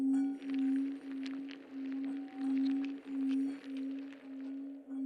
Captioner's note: insects scuttling